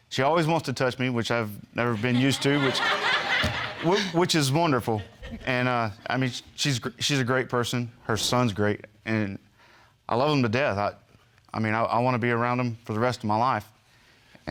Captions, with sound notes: She always wants to touch me, which I've never been used to. (ALL LAUGHING) Which is wonderful. And, I mean, she's a great person. Her son's great, and I love them to death. I mean, I want to be around them for the rest of my life.